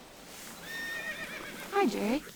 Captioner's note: horse neighing